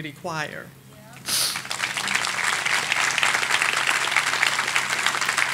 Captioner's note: audience applauding